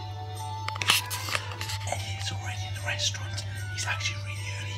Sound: low voice

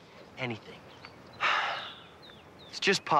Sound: sighs

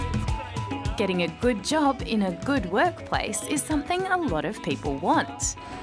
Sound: # reporter Voice Over

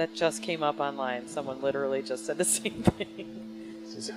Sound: laughing

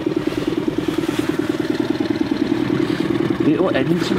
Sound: boat engine vibrating

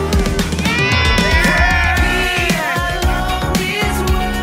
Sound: cheering

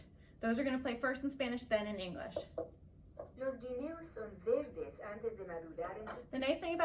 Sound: recordings playing

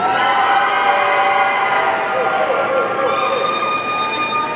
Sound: audience cheering

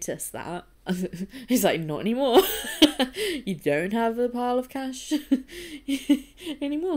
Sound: chuckling

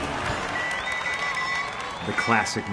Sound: whistling

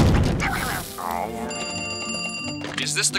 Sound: growling; phone ringing

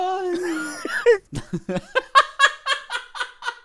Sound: both laugh

